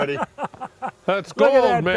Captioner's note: laughter